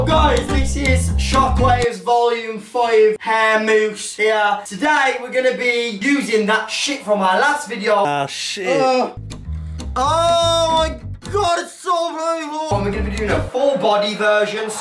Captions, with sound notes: Yo, guys this is Shockwaves volume five hair mousse here today were gunna be be using that shit from our last video- "ah shit" *ahhhh* oh my god its so burlible We're going to be doing a full body version